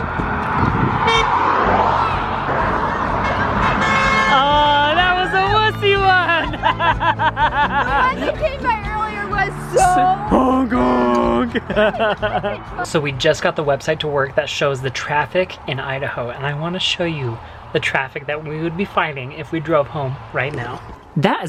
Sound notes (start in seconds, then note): 1.2 honking; 4.0 extended honking; 6.2 laughing; 11.0 laughs